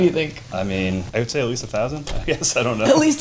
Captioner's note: laughs